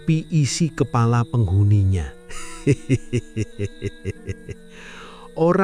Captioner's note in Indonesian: tertawa